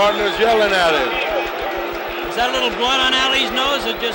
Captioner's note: bell sounds